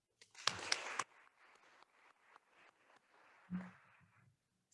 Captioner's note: attendees applauding